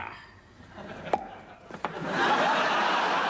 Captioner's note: tennis return pops